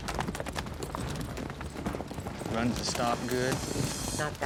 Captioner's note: hoof beats